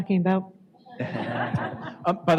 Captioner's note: laughter